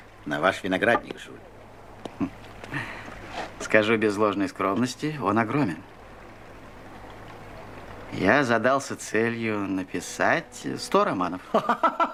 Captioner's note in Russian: смех